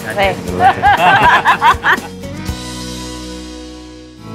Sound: all laughing

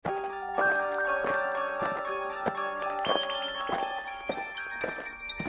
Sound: alien footsteps

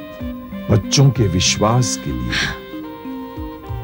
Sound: sighs

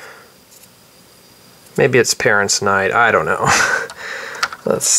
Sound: chuckles

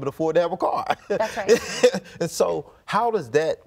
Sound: laughs

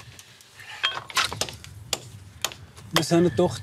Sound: hammering

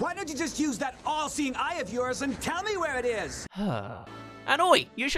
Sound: sigh

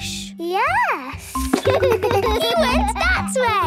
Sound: giggles

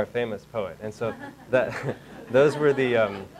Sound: audience laughing

